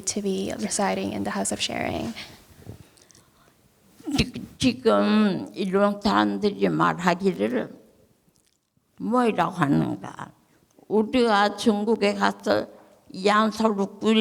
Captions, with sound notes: to be residing in the House of Sharing. (speaking in foreign language)